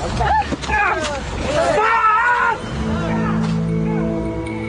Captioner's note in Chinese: 尖叫